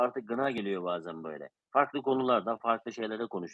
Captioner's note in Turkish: none